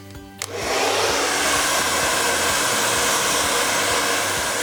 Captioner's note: blow dryer running